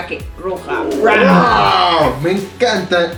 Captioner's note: roaw!